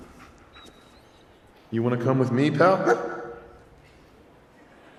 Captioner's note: bark